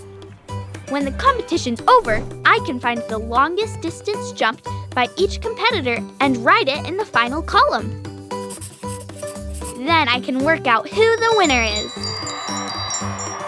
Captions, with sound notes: When the competition's over, I can find the longest distance jumped by each competitor and write it in the final column. [pencil scratching] Then I can work out who the winner is. [people cheering]